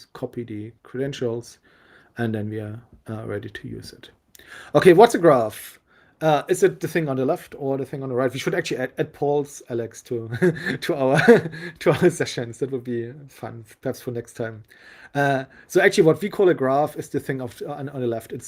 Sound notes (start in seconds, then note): 10.4 laughing